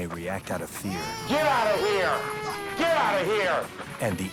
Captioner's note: baby crying